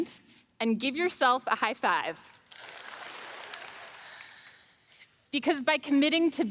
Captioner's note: audience claps